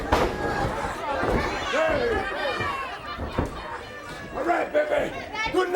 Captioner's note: crowd chatter